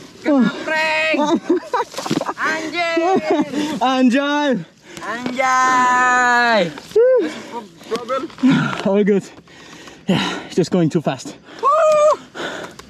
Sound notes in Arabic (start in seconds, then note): 4.0 عامية